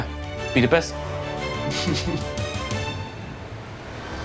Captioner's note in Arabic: ضحك